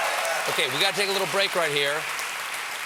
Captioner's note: cheers and applause